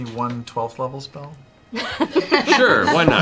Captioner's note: laughter